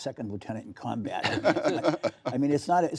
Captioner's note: laughter